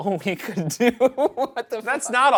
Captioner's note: Ryan laughs